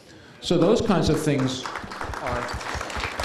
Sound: applause

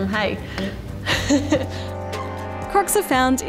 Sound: laughs

